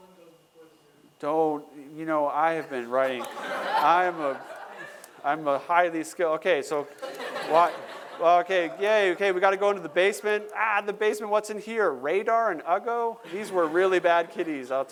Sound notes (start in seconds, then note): 6.8 laughter